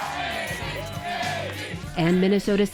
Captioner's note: cheering and applause